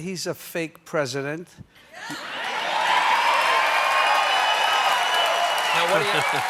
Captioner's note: cheers and applause